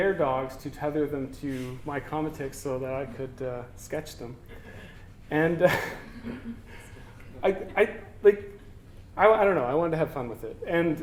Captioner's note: laughter